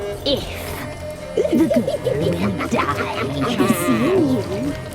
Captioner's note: cackling